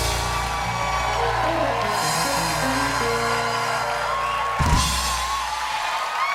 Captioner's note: cheers and applause